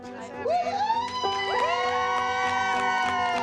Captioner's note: whooping